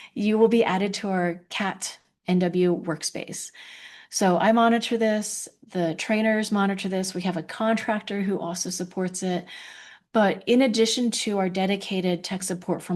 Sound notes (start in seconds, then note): none